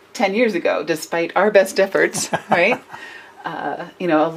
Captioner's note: laughs